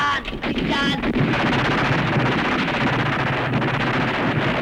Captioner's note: speaking filipino; gunfire